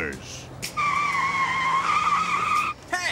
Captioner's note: tires screeching